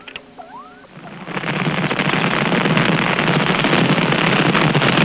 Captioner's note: fire crackling